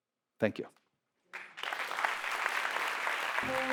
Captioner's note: audience applauds